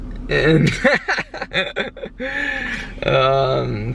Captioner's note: laughter